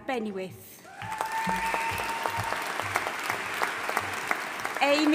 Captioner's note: audience applauding and cheering